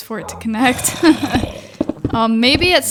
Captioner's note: laughs